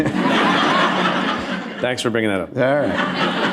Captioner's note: laughter